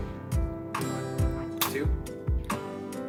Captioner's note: snap!